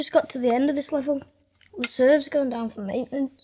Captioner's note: none